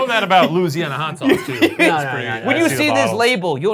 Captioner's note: laughs